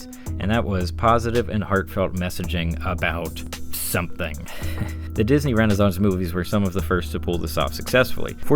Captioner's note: light chuckle